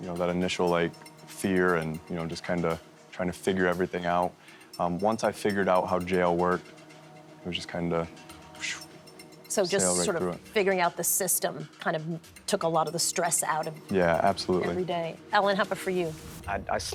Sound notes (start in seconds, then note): 8.9 whooshing